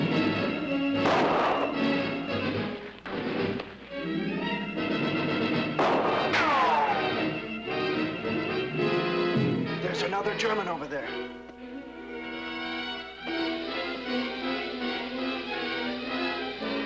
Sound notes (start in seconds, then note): 5.7 guns firing; 5.7 bullets ricocheting; 11.6 intense orchestral music